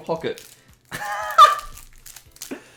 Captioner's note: plastic crinkles; laughs